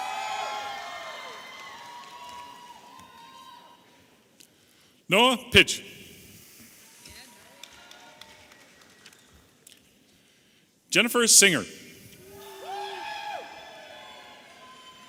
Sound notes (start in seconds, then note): 7.0 audience applauding and cheering